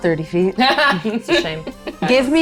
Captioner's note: laughs